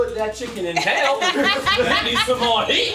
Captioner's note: laughing